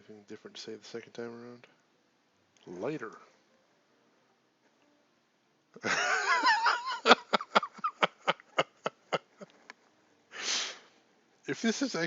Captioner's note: laughs